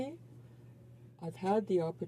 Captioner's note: speaking in French